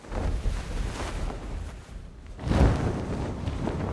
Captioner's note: sheets billowing